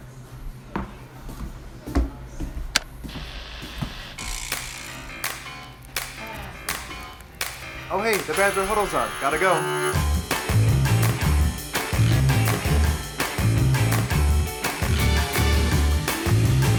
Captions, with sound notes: (radio static) (gentle happy music) - Hey, the "Badger Huddle" is on, gotta go. (gentle happy music)